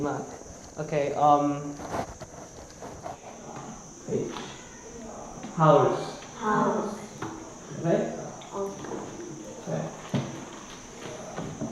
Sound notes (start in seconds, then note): 0.1 foreign language; 8.1 insects chirping